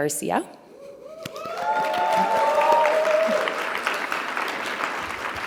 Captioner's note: audience cheering